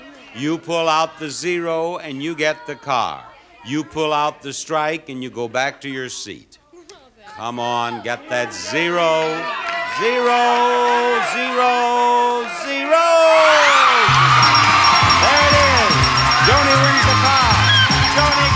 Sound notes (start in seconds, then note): 13.7 audience cheering; 14.0 bells dinging